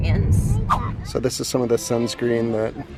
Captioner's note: scene whooshing; children murmuring